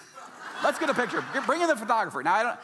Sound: audience laughing

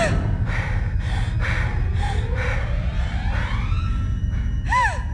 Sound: panting

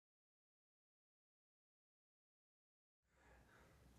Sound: silence

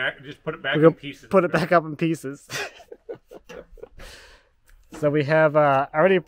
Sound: laughs

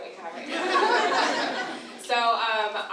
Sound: audience laughs

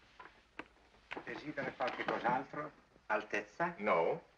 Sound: Italian spoken audio

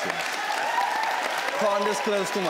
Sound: audience cheers

